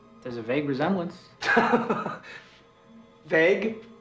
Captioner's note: laughs